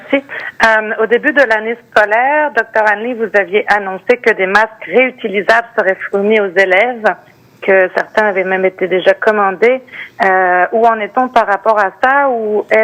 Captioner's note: speaking French